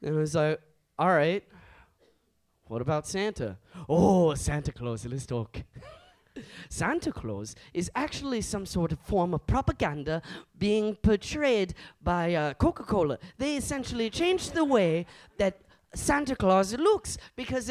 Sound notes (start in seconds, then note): 6.0 chuckles